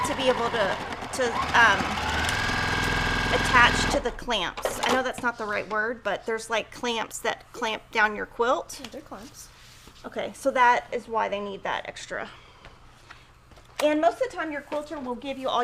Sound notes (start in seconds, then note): 0.0 machine whirrs; 4.2 machine speeds up